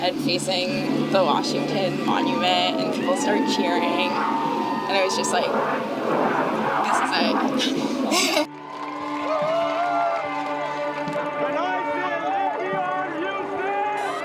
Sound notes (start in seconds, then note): 6.8 laughs; 9.0 crowd cheering